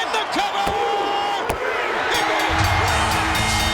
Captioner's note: bell rings